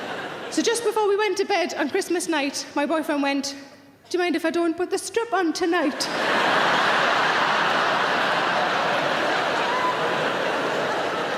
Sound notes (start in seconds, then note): 6.1 laughing